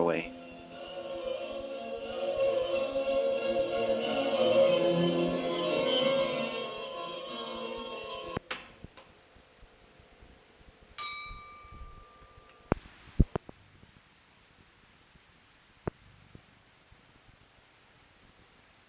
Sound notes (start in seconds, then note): 11.0 bell Sound